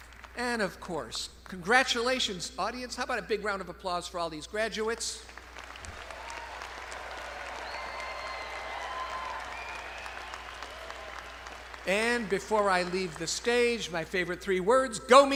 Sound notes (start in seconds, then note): 5.3 crowd applauding; 5.5 crowd cheering